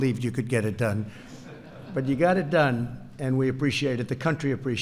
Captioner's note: laughter